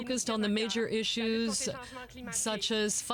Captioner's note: speaking french